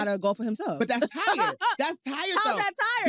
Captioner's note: laughs